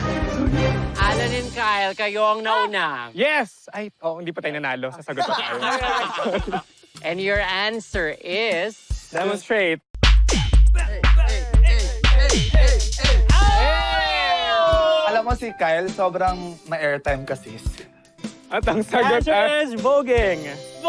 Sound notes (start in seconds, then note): 4.9 laughter; 10.0 upbeat music playing; 10.8 chanting